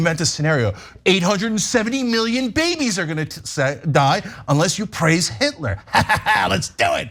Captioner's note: laugh